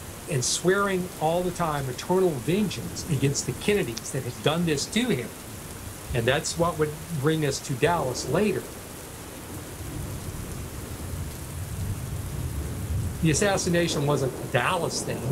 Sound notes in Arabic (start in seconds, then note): 0.0 صوت هدير المطر الغزير; 13.1 صوت هطول المطر الغزير